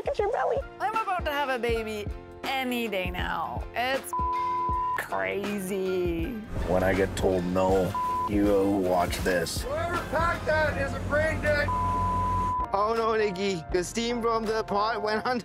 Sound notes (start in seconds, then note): 4.1 beep; 7.9 beep; 11.5 beep